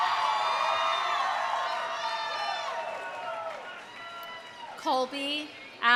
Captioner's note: audience applauding; audience cheering